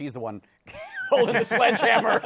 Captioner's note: laughter